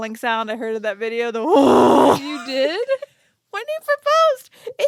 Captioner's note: growls